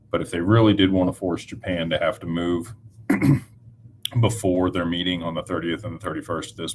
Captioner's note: clears throat